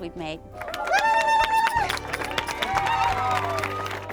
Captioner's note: claps and joyous screams